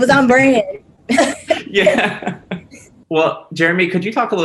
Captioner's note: group laughs